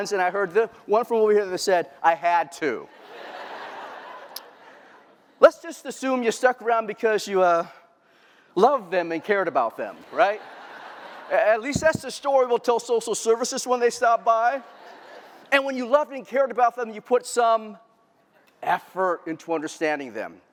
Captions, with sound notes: and I heard one from over here that said, I had to. [LAUGHTER] Let's just assume you stuck around because you love them and cared about them. [LAUGHTER] At least that's the story we'll tell Social Services when they stop by. When you loved and cared about them, you put some effort into understanding them.